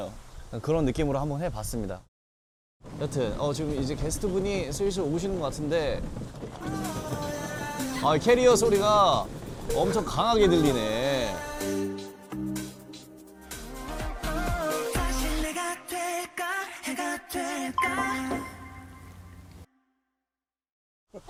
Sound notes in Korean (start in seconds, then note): 2.8 멀리서 들리는 캐리어 끄는 소리